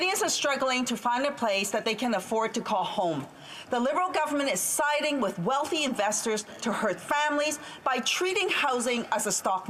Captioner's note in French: voix de l'interprète